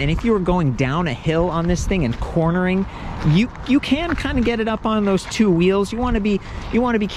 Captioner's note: none